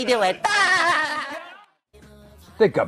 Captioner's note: laughing